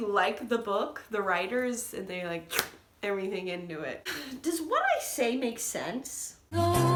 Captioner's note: suction noise